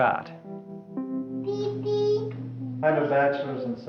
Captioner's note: sound of child playing with toys